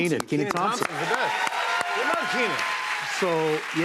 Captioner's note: cheers and applause